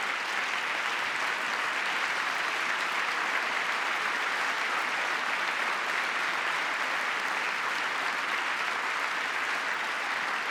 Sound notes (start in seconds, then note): 7.1 cheering; 8.2 applause